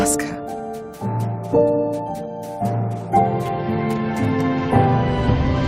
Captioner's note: footsteps in snow